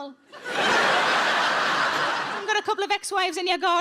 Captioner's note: audience laughing